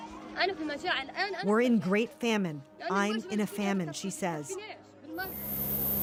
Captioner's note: speaking Alternate Language